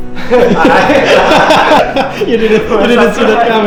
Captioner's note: laughs